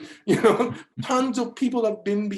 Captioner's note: laughs